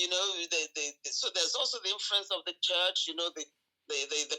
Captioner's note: stammering